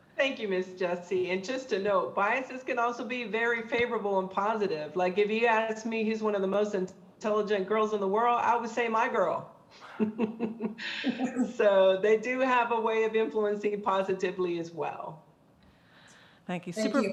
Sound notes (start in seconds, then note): 9.8 laughs